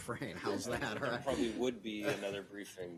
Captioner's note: laughter